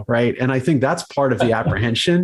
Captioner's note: host laughs